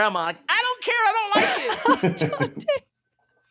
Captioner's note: laughing